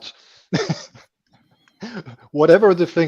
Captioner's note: laughs